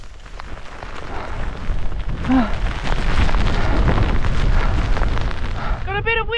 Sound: wind and huffing

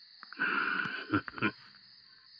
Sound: chuckles

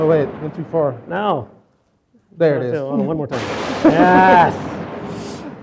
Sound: sound effect; laughs

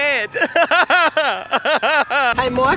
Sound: laugh-cry hybrid

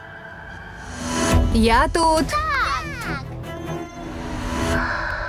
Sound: giggles

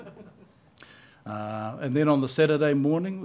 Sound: laughter

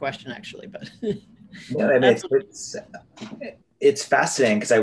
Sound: laughs

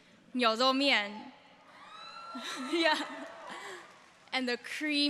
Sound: audience members cheering

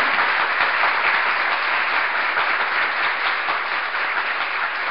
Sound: audience applauding

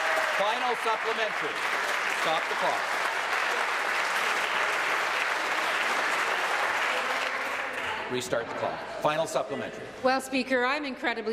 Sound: applause

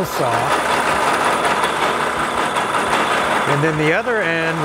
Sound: machine whirring continues

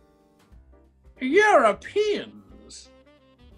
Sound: accented

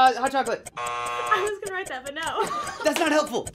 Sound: buzzer

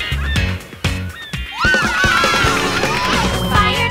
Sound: cheering

